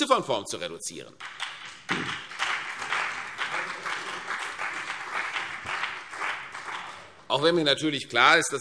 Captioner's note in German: Beifall CDU und BÜNDNIS 90/DIE GRÜNEN